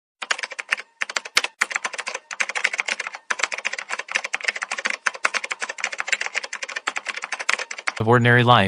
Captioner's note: typing